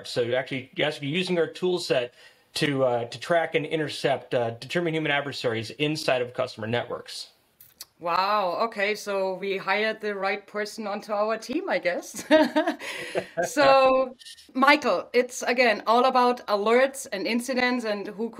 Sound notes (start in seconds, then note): 12.2 both laughing